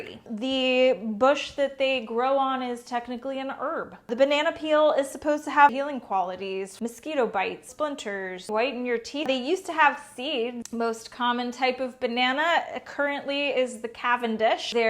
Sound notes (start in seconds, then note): none